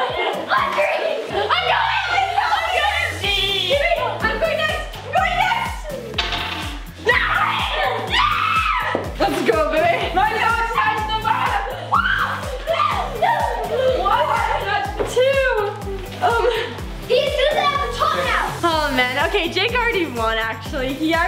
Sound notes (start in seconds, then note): 1.2 shouting over each other excitedly; 6.0 clanking; 7.2 shouting; 11.9 screeching